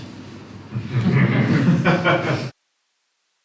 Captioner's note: laughter